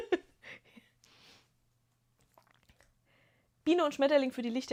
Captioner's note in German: gelächter